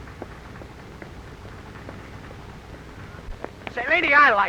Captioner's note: slapping